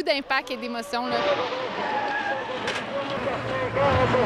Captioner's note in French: crissement des pneus